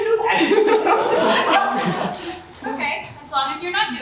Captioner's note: audience laughs